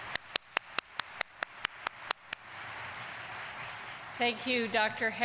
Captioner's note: audience applauding